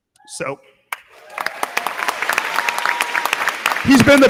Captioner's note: crowd clapping; crowd cheering